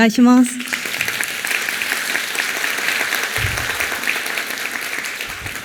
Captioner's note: applause